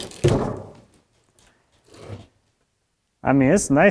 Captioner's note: wood bangs